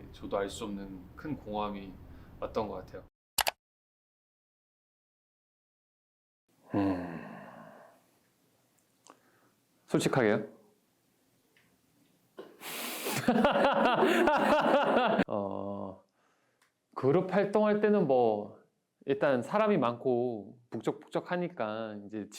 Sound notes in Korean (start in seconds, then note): 11.1 정적